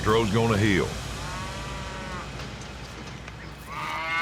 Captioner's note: steer mooing